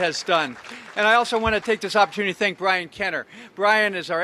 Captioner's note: applause